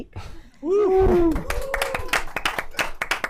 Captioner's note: applause